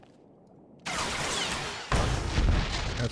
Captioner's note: gun firing